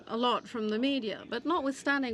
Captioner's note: speaking French